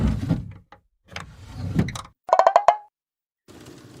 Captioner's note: various sound effects